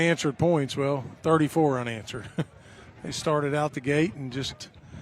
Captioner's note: laughter